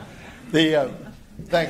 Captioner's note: laughs